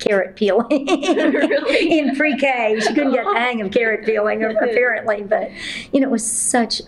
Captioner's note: laughter